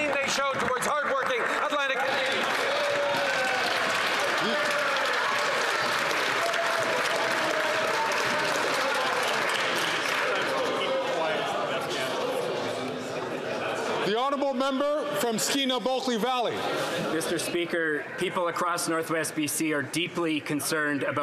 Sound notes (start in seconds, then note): 7.6 some Applause